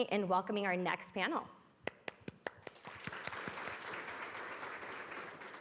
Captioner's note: applause